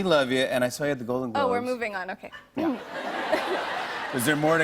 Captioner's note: laughter